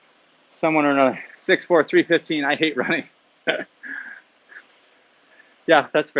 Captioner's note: laughs